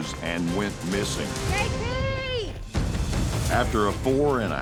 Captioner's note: shouting